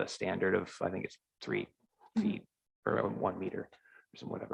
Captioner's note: murmurs